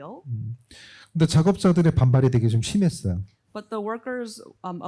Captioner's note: speaking korean